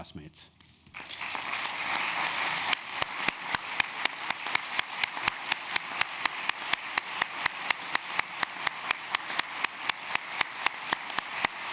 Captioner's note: applause